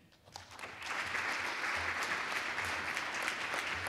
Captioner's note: audience applauds